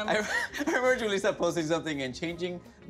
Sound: chuckles

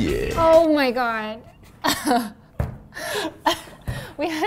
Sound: laughs

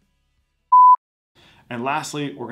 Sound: beep

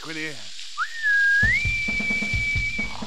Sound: "piping aboard" whistle

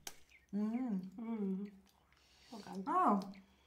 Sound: women humming in delight

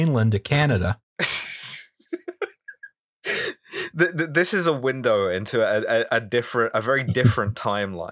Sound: laughter

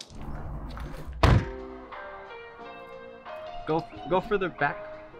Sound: door slams

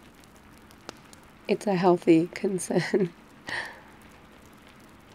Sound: laughs

